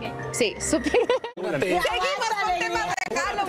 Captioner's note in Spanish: risas